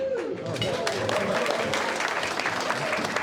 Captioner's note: crowd applauding